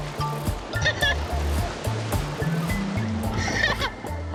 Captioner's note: laughing